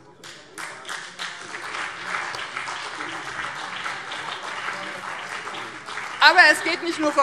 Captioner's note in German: Beifall BÜNDNIS 90/DIE GRÜNEN und CDU